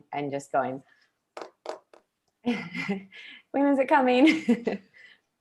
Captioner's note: fingernails tapping